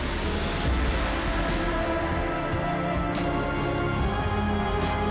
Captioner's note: gentle vocalization